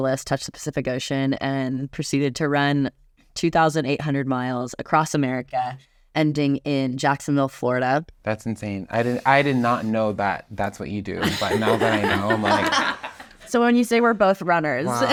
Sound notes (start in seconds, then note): 11.2 laugh